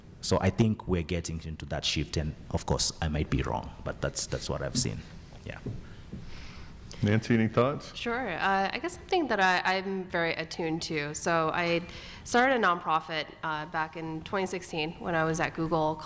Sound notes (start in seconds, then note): none